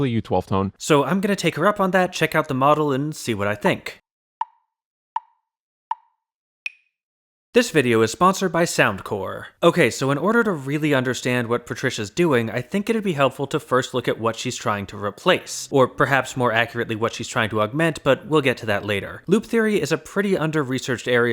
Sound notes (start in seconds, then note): 5.2 tick, tick, tick, tick, tock